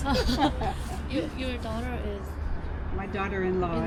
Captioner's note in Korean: 사실 못 알아듣고 웃음